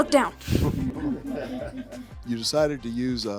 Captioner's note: group chuckling